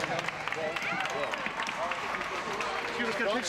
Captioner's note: crowd clapping